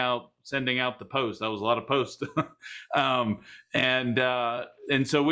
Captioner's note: laughs